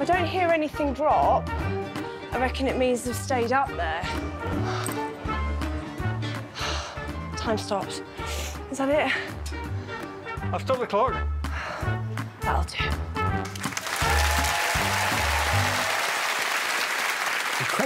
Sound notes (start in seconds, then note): 6.2 sighs; 8.2 sniffs; 9.8 slow salsa music; 13.0 sighs; 13.4 audience applauding